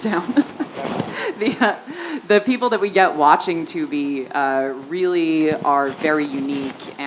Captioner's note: laugh